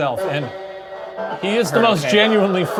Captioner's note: device chatters